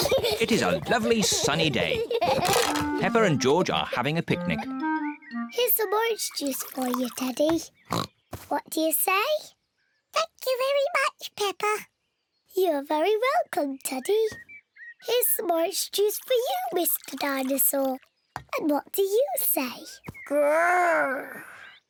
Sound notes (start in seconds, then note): 7.9 oinks; 9.9 in squeaky voice; 12.4 in normal voice